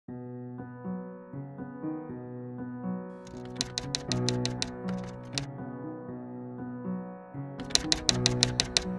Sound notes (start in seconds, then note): 0.1 contemplative music; 3.4 typewriter keys clicking